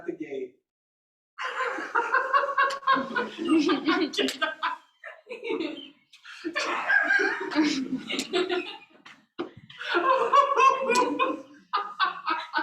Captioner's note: laughter